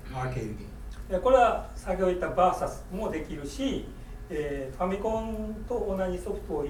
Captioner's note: speaking in foreign language